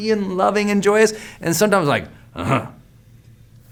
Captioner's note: grunts